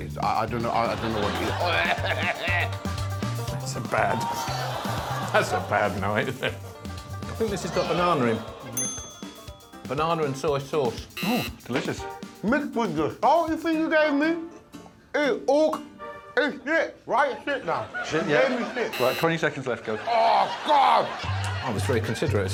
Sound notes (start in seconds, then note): 4.0 audience groans; 8.7 dinging; 11.8 buzzing; 14.2 garbled through food; 18.9 buzzer